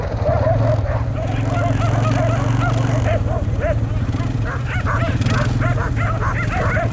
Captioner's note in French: woof woof woof